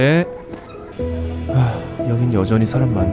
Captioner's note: sigh